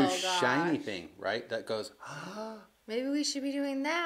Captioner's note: sighs